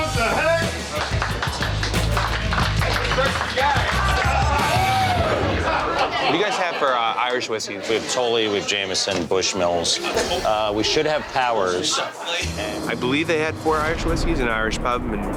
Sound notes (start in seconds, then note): 0.6 clapping; 2.8 patrons yelling